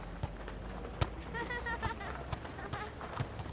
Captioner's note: anak tertawa